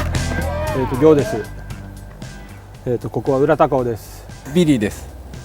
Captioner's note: speaking in foreign language